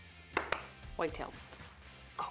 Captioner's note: clapping